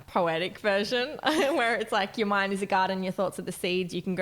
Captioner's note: chuckles